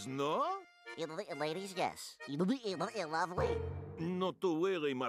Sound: stuttering

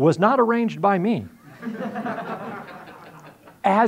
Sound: audience laughing

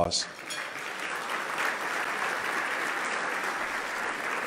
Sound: loud clapping

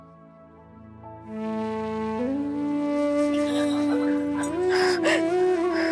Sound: emotional music playing; crying

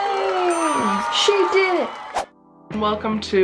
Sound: crowd cheers; check dings

